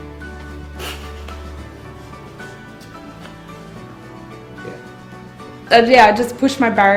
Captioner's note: sighs